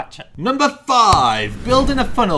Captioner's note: slaps